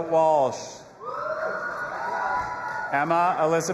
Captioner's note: audience applauding and cheering